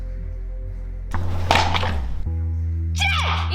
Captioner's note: clattering